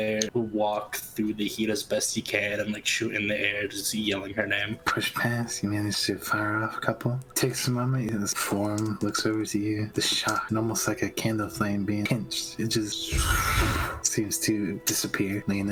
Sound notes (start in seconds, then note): 13.1 shhoooofff